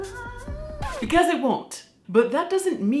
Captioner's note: record scratching